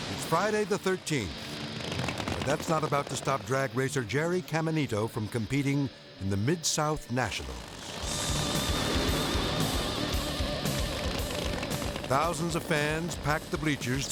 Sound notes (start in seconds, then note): 7.3 engine revving; 7.8 intense rock music